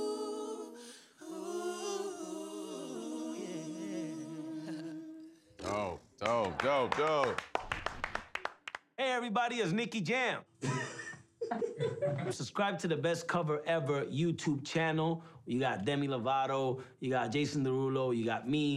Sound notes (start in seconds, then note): 3.9 chuckles; 5.1 sputters; 9.8 laughs